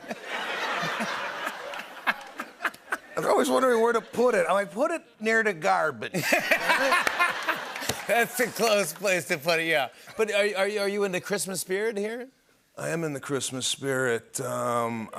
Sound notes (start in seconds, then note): 0.0 laughter; 6.1 laughter